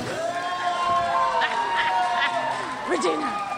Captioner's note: crowd cheers